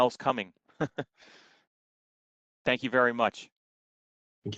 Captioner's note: laughter